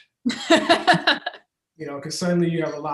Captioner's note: laughs